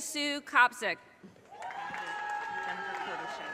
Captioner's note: audience cheers and applause